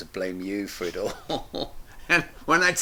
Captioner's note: both chuckle